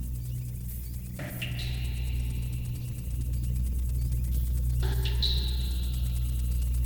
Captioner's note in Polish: Szybko oscylujące, metaliczne uderzenia nasilają się